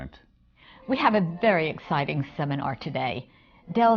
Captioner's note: none